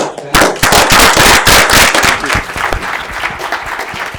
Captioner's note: applause